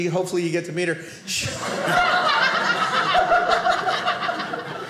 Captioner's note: audience laughing